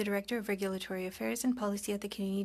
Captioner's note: speaking French